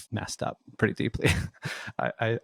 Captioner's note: laughs